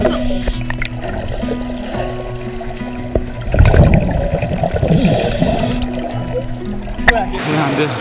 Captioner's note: gurgleee